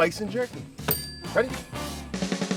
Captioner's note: bell dings